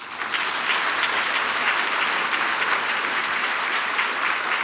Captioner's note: audience applauds